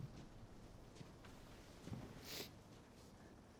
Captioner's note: sniffles